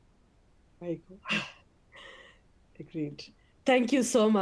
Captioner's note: chuckles